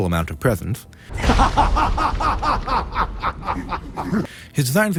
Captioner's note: laughter